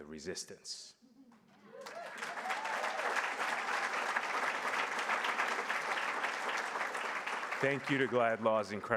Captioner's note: applause